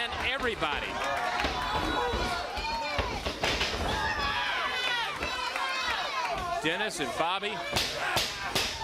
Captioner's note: crowd chatter